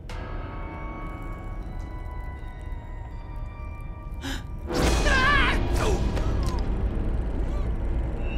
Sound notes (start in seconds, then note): 3.6 gasping, shrieking